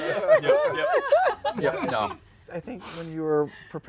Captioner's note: laughter